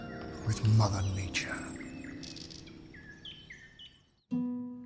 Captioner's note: birds chirping